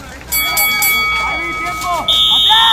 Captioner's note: the bell rings